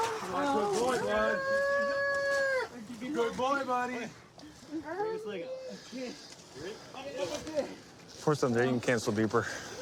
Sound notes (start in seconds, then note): 1.4 wails